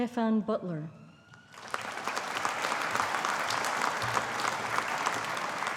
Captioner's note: audience applauding